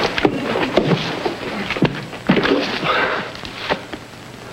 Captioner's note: Gypsy thuds